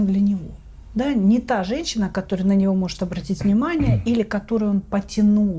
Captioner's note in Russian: откашливается